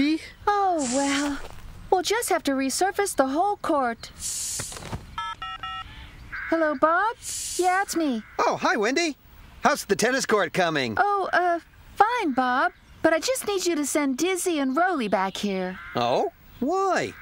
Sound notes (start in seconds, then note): 5.1 phone Beeping